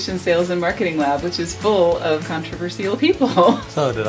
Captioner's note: laughs